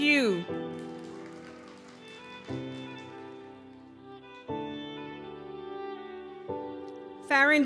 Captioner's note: gentle music continues; audience applauds